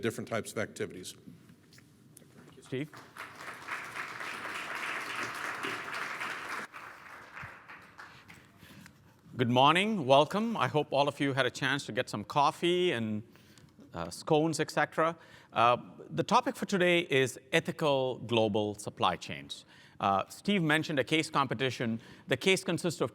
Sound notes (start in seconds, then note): 2.7 applause